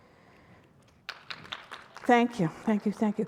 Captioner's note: audience applauding